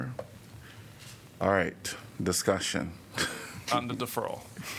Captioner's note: laughter